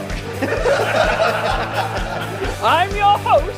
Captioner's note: all laughing